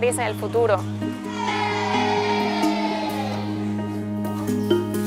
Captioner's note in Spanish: gritos y risas